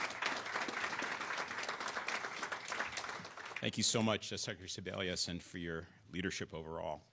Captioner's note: applause